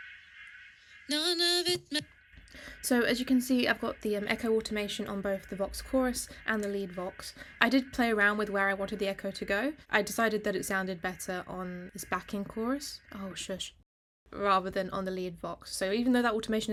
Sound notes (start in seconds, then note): 3.6 echo in background; 13.3 echo stops